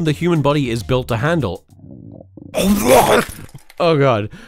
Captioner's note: stomach growls